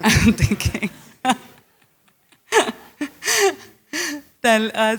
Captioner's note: laughter